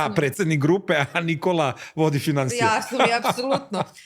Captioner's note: laughter